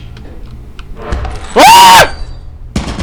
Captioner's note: scream!